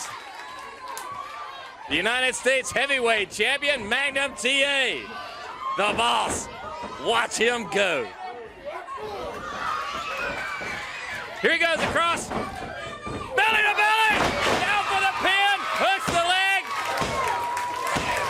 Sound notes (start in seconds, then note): 0.0 crowd cheering; 8.8 crowd cheering; 16.8 crowd chatter